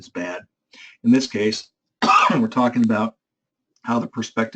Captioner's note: cough